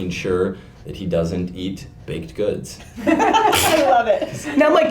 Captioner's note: laughter